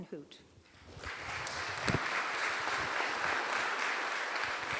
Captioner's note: applause